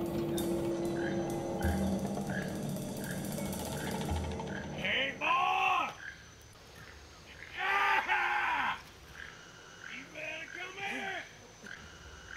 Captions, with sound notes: - Hey boy. [laughs] You better come here.